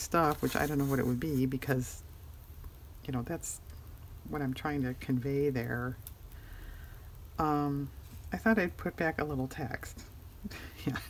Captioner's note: laughs